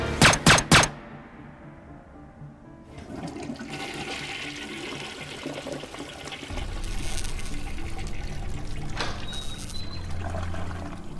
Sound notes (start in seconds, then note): 0.0 dramatic music; 0.0 gun firing; 2.8 toilet flushing; 7.1 text buzzing